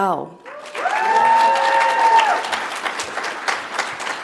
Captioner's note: audience applauds